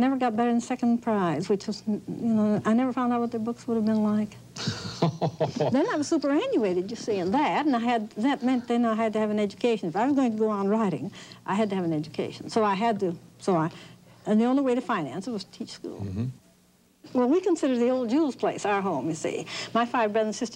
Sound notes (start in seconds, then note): 4.6 laughter